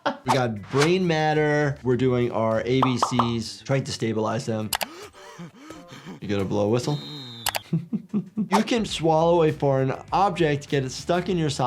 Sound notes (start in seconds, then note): 4.8 Lumpy gasps; 7.0 doctor laughs